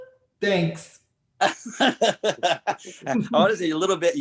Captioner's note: Clifton laughing